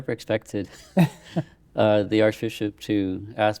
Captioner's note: laughing